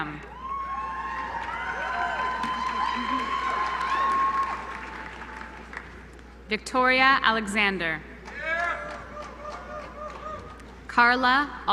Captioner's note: applause